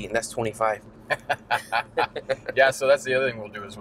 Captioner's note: both laugh